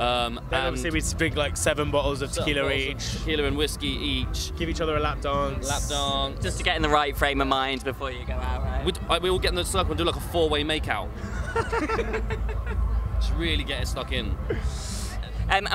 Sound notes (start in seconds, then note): 11.2 laughs